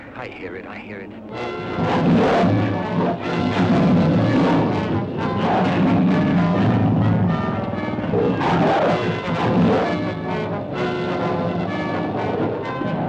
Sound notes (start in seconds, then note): 1.5 animals bellowing; 1.5 dramatic music